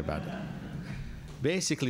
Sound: laughter

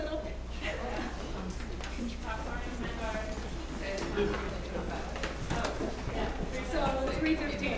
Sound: laugh

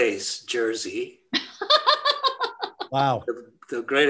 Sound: laughs

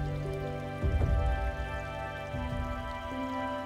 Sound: none

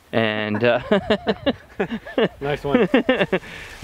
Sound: gentleman laughing

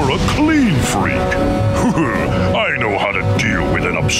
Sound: laughing

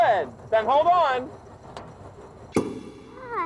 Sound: short pop

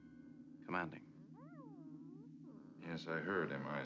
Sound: meows softly

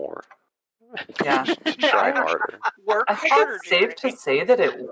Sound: laughter

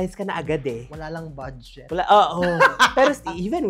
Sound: laughs

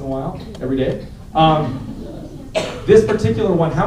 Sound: laughter

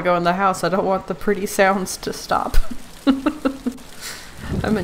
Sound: laughs

